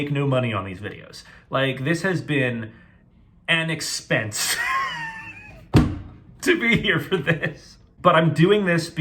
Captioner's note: laughing